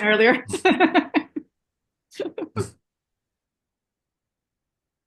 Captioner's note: laughs